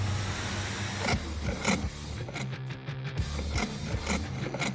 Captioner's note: sawing